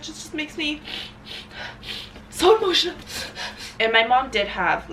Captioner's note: sniffling